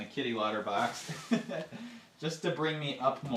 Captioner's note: laughing